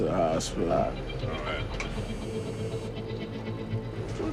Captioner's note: phone buzzing